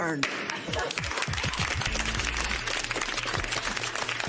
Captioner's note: applause